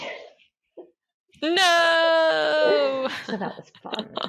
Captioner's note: laughs